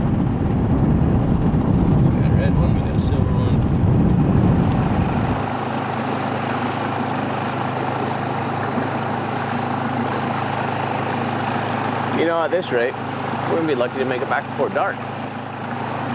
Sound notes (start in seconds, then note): 3.8 motor roaring; 3.8 water splashing